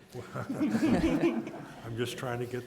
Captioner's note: soft laughter